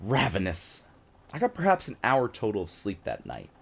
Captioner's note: none